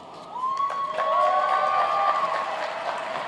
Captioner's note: applauding